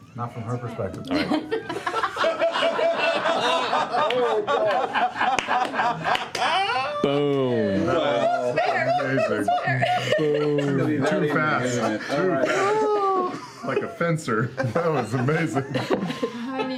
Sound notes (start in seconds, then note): 1.1 laughter